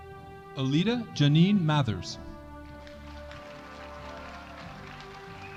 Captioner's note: audience applauding